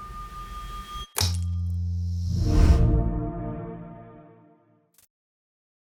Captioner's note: electronic signal humming; bright music; electronic device buzzing